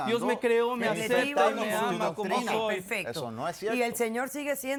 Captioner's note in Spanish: Comentarios al unísono